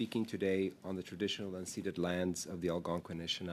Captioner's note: speaking French